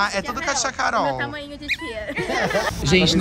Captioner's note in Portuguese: risos